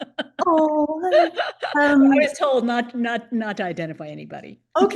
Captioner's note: laughs